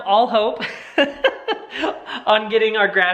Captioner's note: laughing